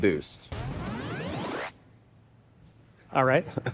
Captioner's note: boosting sound effect